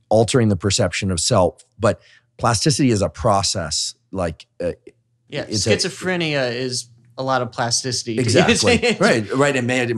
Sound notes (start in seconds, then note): 8.2 laughs